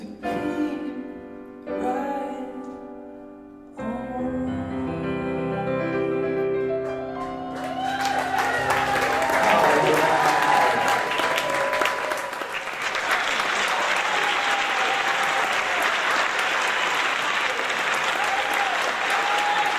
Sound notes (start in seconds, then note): 7.9 audience applause; 9.1 murmurs; 10.8 audience applause